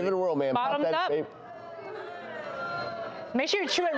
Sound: audience groaning

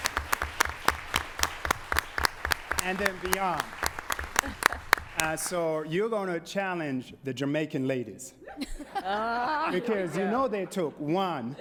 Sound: applause

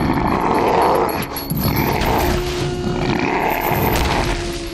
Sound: growling

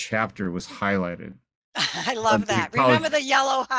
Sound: laughs

